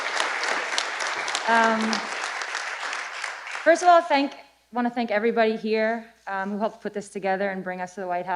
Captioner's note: applause